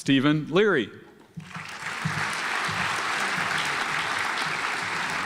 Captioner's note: audience applauds